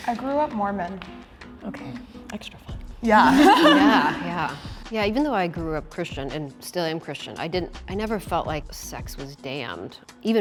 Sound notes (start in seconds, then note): 3.2 chuckles